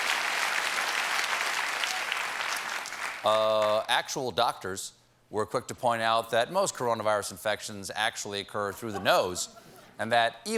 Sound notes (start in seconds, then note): 3.0 cheers and applause